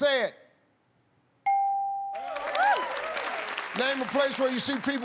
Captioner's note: ding